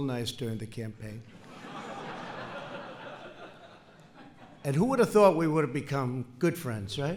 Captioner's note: laughter